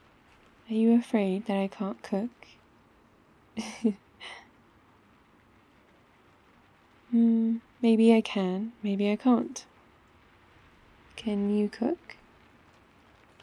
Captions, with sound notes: are you afraid that I can't cook? *laughs* hmm, maybe I can maybe I can't can you cook?